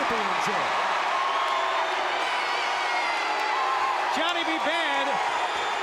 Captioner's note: crowd chatter